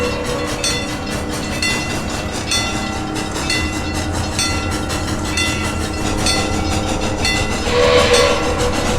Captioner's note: Lackawanna S-3 whistle; chuffing increases in speed; Lackawanna S-3 whistle, wig wag ringing